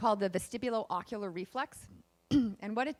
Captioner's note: clears throat